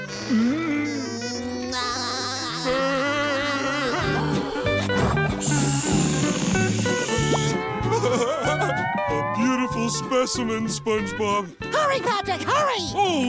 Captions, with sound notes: [laughing] [laughing] A beautiful specimen, SpongeBob. Hurry, Patrick! Hurry!